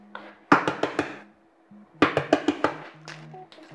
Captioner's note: egg cracking